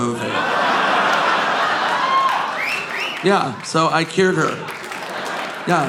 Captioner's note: audience laughing